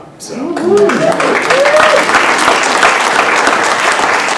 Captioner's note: applause